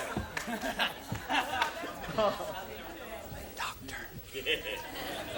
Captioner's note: laughter